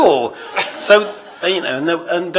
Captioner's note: laughter